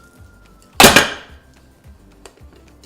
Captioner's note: pan banging; upbeat music